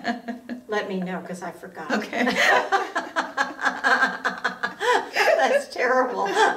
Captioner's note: both women laughing